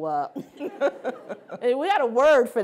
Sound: laughing

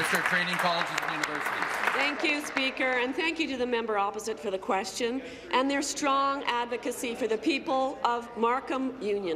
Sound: applause

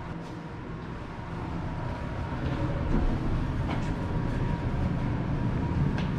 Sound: elevator fan noise

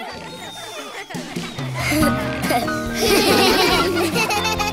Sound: laughing

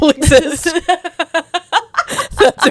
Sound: panel laughing

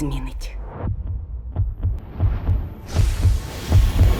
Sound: heart thumping

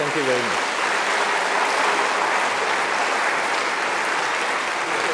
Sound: applause

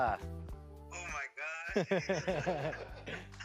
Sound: laughing

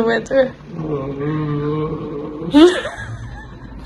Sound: whines; laughs

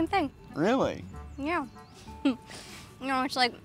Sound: chuckles

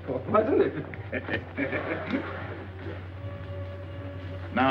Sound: laughing

